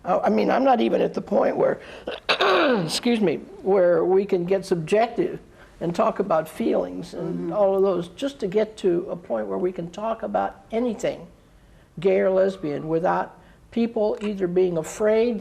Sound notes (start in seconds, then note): 1.9 coughs